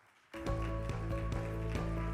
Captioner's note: audience clapping; inspiring music